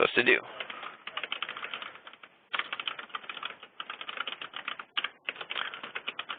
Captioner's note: keyboard clicking